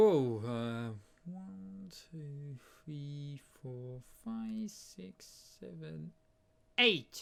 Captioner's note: counting up to seven